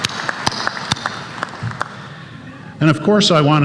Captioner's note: applause